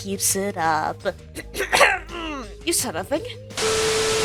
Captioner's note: clears throat